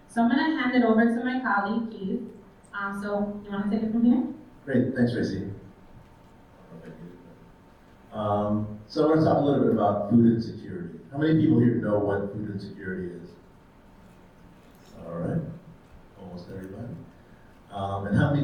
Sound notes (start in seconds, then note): 7.1 faintly speaking